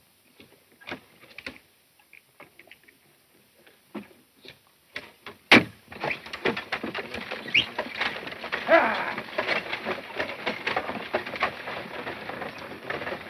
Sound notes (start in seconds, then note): 7.5 whistling; 9.8 wagon creaking